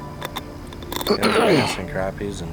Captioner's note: clears throat